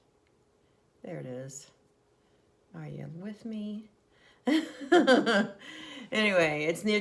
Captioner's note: laughs